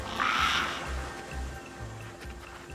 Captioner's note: bird squawk